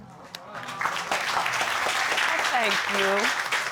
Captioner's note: audience applauding